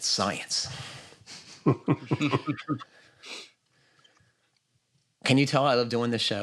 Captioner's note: laughter